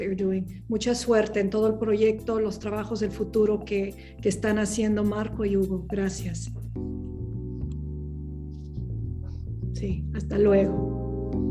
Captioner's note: non-english speech